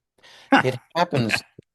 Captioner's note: laughs